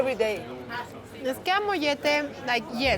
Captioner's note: speaking Spanish